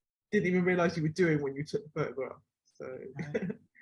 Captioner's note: laughs